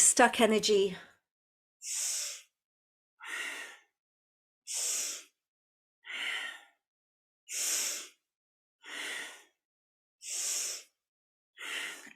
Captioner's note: breathes